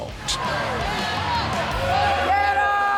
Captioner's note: crowd cheering